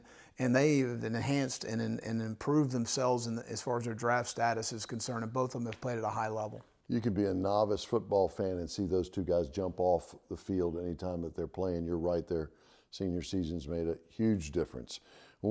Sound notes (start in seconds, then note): none